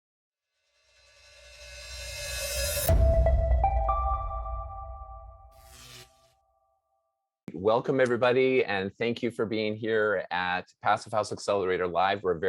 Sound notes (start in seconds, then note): 2.4 bright music; 5.4 electricity buzzes